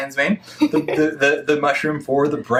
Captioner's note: laughs